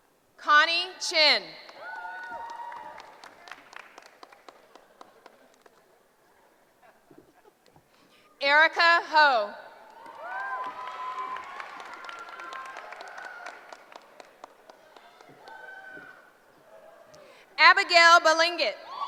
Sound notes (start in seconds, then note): 1.6 applause; 9.8 cheering; 18.8 cheering